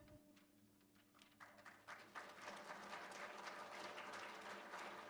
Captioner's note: applause